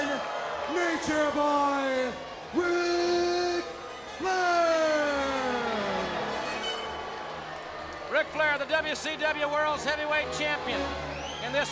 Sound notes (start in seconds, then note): 7.0 audience cheering